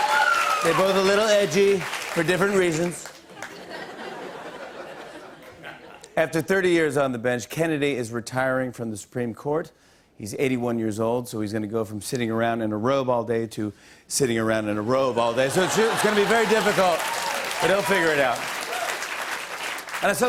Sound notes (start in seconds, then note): 3.1 light laughter; 5.8 normal voice; 18.8 cheers and applause